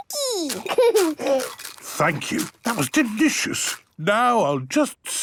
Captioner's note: laughing, crunching